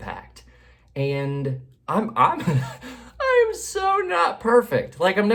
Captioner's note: laughs